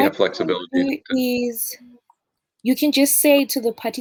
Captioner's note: chatter